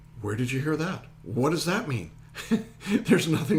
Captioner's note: laughing